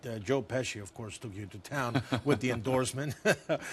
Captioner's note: Kevin laughs; laughs